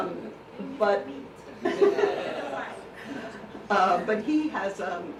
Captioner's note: all laughing